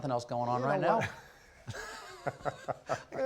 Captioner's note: laughter